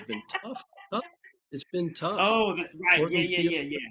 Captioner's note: laughing